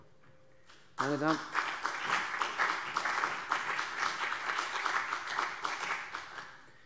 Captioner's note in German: Beifall CDU und BÜNDNIS 90/DIE GRÜNEN